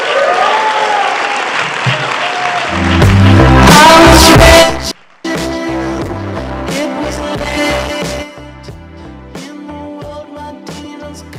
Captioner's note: applause